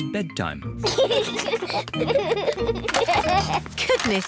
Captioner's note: both giggle